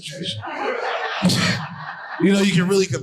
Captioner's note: audience laughing